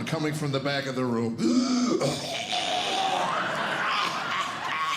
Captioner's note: wheezing